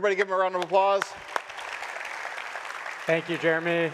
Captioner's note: audience applauding